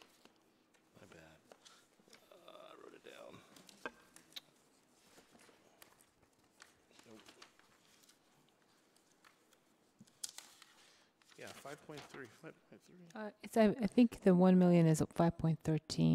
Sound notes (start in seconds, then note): 8.6 papers rustling; 12.4 voice fades